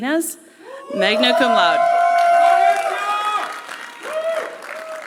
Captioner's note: applause